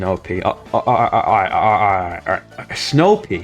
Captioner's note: stutter Moment